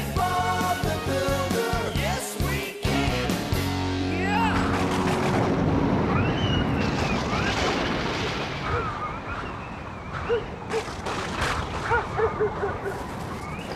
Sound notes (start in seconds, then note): 5.2 wind Whistling; 6.4 thunder Rumbling; 9.9 dog Barking